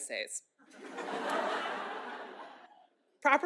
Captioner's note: laughter